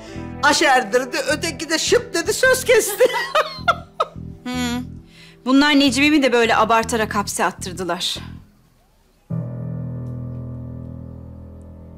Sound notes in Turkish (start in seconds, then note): 2.8 Gülme sesi; 9.1 Müzik - Gerilim